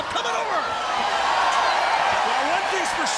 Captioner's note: crowd cheering